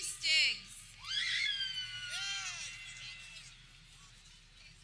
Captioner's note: people cheering